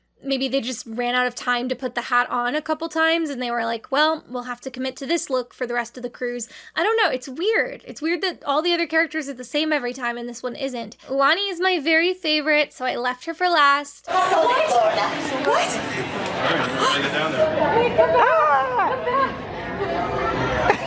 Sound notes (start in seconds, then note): 14.1 gasps